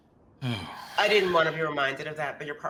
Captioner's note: Silas sighs loudly